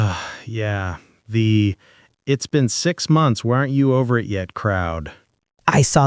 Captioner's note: sighs